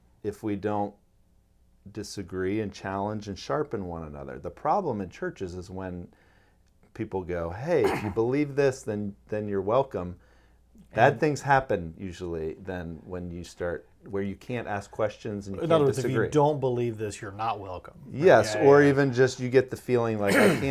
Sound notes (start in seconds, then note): 7.8 clears throat; 20.2 clears throat